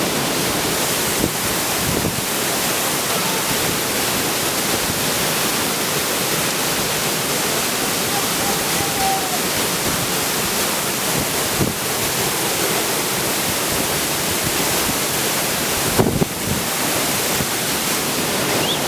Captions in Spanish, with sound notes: *ruido cascada* * viento fuerte *